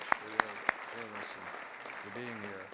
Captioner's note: applause